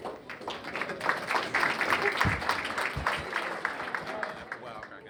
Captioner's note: applause